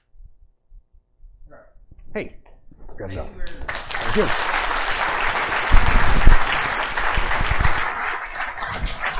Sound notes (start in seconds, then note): 3.6 applause